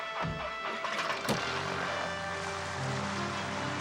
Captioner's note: motor whirring